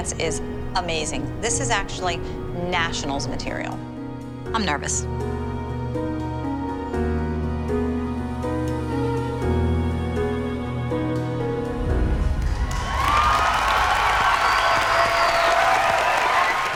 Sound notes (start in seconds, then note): 11.4 music fades; 12.3 cheers and applause